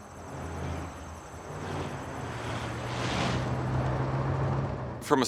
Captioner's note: car engines roaring